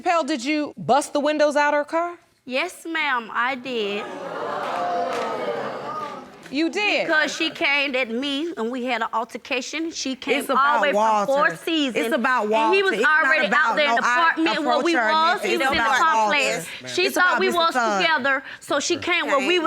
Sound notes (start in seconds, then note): 4.0 audience gasps